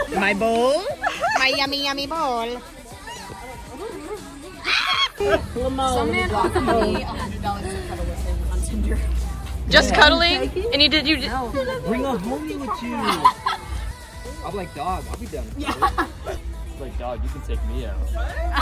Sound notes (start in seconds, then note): 4.6 screams